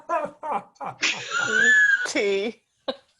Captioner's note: laughs